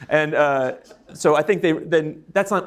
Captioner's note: audience laughing